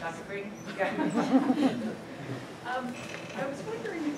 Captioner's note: laughter